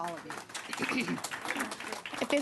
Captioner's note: applause